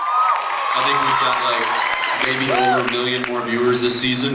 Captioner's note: cheers, screams, applauds